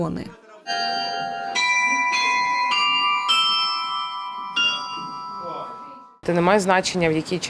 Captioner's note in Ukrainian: дзвін від дзвонів